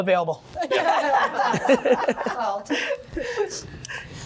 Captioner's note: laughter